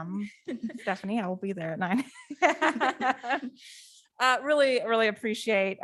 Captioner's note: laughs